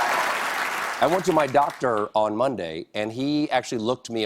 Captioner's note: cheers and applause